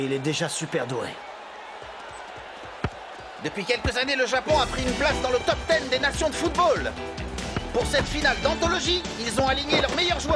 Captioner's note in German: beifall